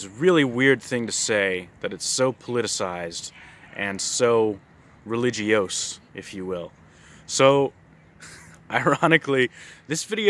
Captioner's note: lil' laugh